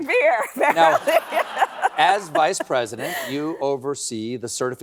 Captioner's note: laughs